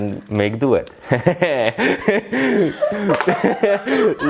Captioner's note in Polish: śmiech